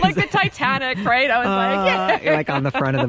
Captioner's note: laughs